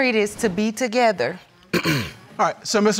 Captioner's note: clears throat